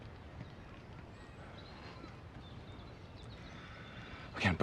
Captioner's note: birds chirping